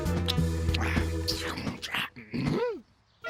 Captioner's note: gasping